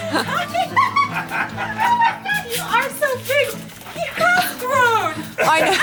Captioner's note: giggling